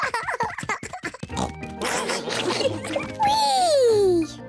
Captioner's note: all laughing